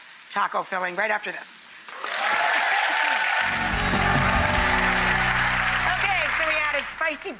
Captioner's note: audience applauds